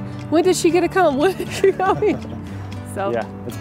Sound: laughs

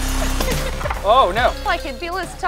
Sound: laughing

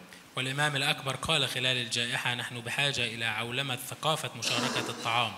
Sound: speaks in foreign language

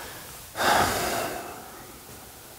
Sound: sigh

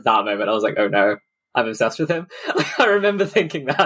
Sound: laughs

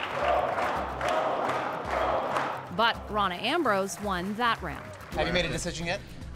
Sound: chanting

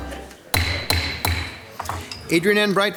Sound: gavel bangs

